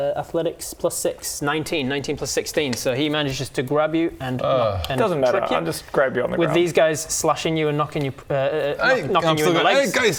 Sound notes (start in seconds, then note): 4.4 urgh